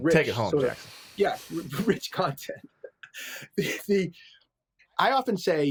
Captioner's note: laughs